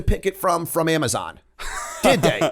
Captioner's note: laughter